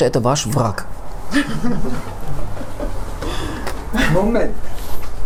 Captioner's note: laughter